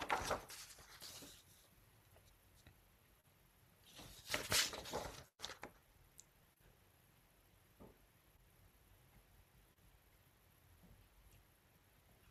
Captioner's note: papers shuffle; pause